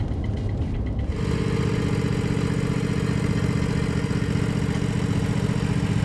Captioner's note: tractor engine rumbling